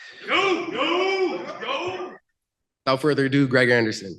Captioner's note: shouting